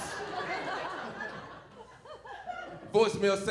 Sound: audience snickering

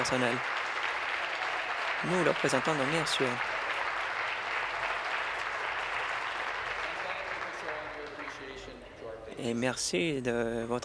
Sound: applause

